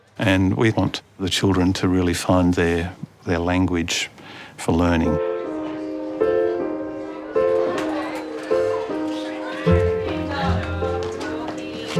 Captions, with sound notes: and we want the children to really find their language for learning. (THOUGHTFUL PIANO MUSIC) (ALL CHATTER HAPPILY)